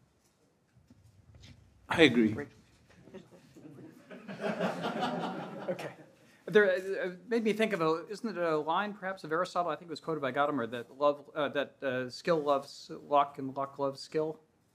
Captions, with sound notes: - I agree. (audience laughing) - There made me think of a, isn't it a line, perhaps Aristotle, I think it was quoted by Gautama that skill loves lock and lock loves skill,